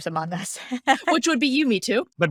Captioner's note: laughing